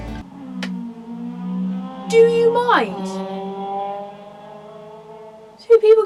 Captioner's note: really rude, loud motorbikes